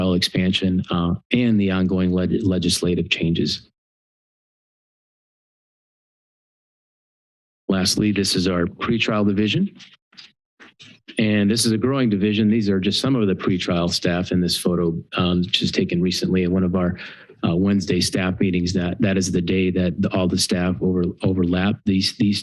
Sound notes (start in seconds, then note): 4.2 pause